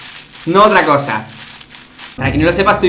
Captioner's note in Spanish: sonidos de bolsa plástica arrugándose